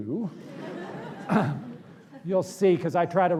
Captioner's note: laughter